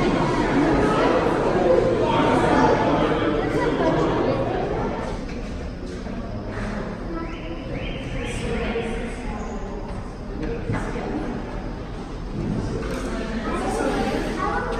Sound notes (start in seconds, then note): 5.4 people talking